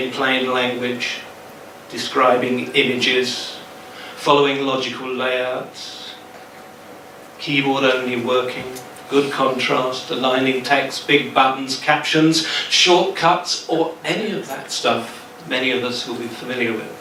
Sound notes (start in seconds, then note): none